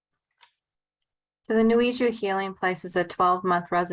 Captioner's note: speaking in foreign language